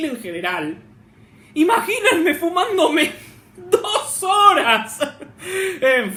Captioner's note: weeps